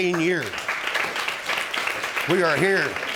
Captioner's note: audience applauding